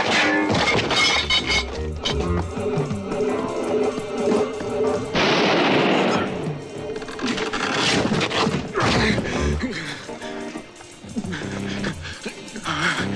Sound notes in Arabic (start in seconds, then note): 0.6 صوت الجرافة; 5.1 إطلاق نار; 11.0 يلهث